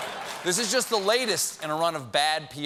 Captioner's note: laughter